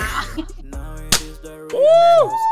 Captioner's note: bb gunshot